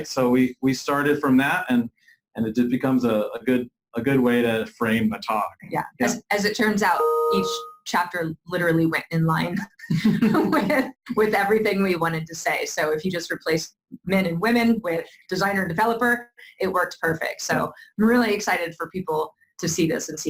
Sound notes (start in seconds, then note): 6.9 computer chimes; 9.7 laughs